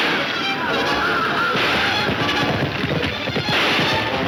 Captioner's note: gunshots banging